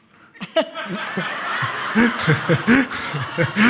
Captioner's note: all laughing